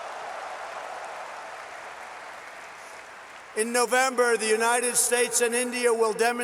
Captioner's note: applause